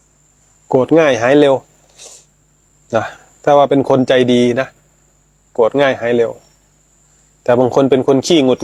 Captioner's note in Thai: เสียงสูดหายใจ